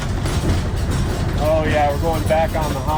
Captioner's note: metal rattling